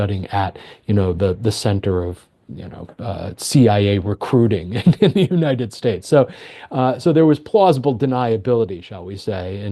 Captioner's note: laughs